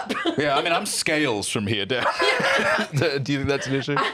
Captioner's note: laughs